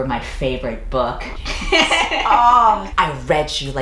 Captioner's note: laughs; groans